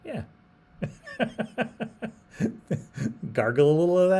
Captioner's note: laughs